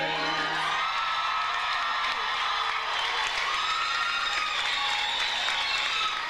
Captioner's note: audience applauds; audience cheers